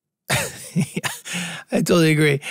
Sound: group laughing

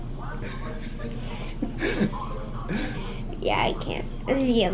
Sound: laughs

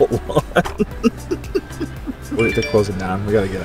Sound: both laughing

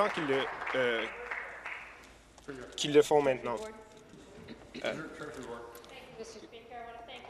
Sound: applause

